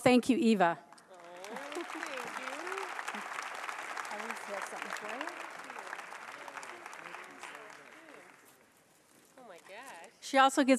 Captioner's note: applause